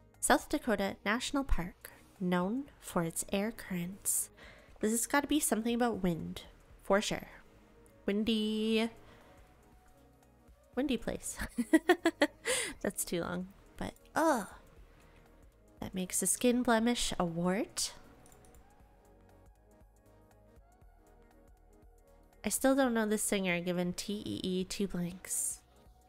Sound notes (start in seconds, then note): 11.4 giggles